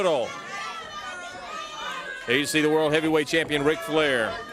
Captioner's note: crowd cheering